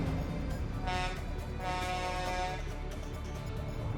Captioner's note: horn honks